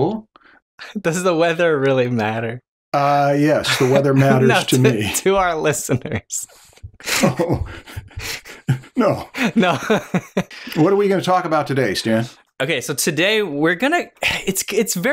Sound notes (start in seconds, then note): 7.0 laughter